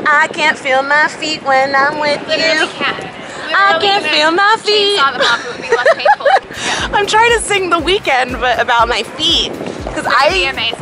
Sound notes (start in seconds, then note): 5.1 laughs